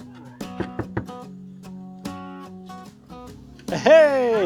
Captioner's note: door knocking